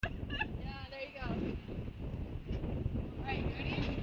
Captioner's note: laughs